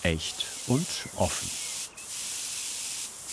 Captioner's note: airbrush hissing